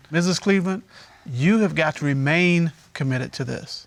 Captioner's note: none